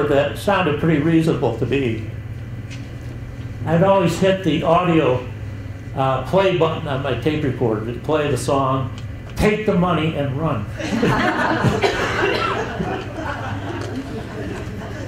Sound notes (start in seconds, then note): 10.8 chuckles